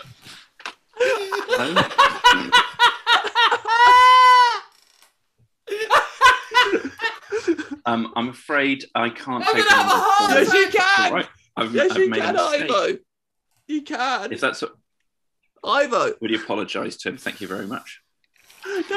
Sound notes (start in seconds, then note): 0.0 laughter; 3.8 continued laughter